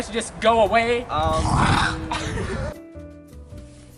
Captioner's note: ummm; vomits